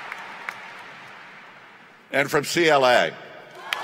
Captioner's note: cheering